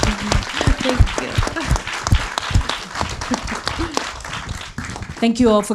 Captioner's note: all applauds